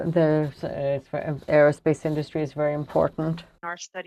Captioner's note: speaking french